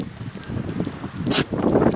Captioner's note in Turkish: Köpeğin ayak sesleri